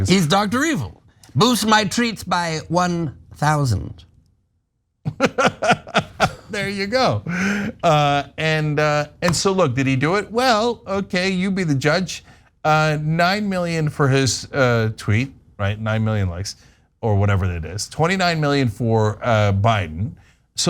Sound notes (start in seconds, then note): 5.0 laugh